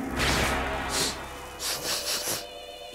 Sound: sniffing

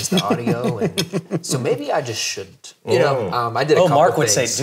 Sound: laughing

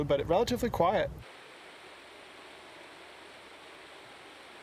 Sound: rushing water

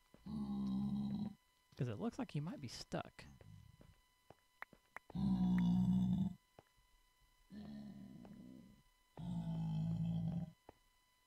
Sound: pigman grunts

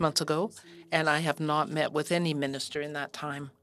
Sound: speaking French

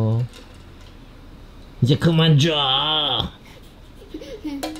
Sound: Devilish voice

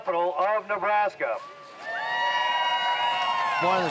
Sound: crowd cheers

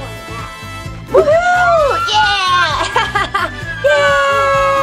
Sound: all cheer and laugh

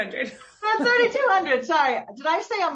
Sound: laughs

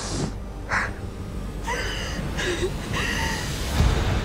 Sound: sobbing

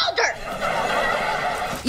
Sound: laughing

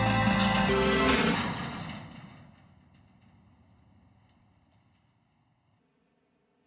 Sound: music stops; door slams

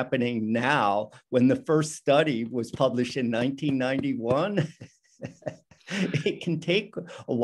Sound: laughs

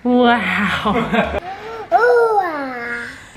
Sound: laughter

